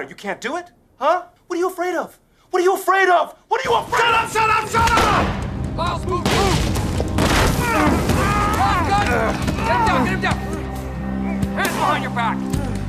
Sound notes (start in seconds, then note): 6.2 gunshot; 7.6 grunts of struggle